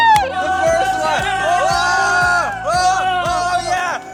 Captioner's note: loud cheering